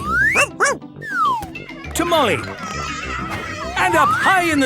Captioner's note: barking; shouting